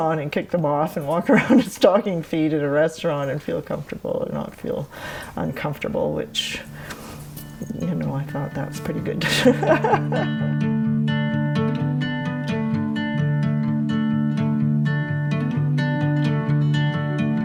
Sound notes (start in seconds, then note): 9.1 laughs; 10.5 light music